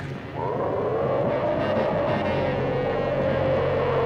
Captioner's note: dinosaur roaring